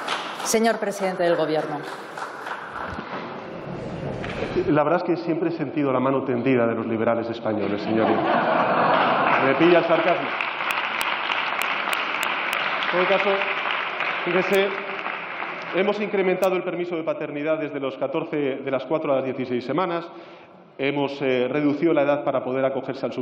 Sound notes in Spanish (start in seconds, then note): 7.6 Risas